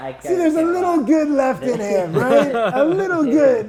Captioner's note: laughing